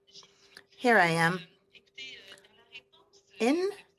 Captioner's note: speaking French